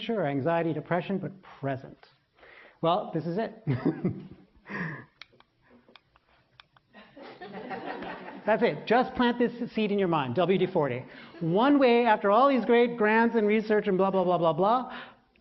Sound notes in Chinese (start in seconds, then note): 4.4 笑聲; 7.0 laughter